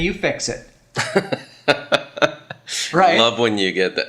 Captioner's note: laughs